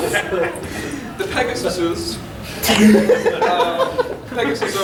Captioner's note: audience laughing